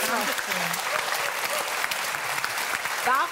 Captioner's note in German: Jubel